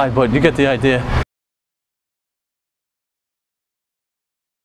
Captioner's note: pause